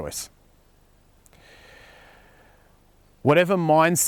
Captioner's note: deep breath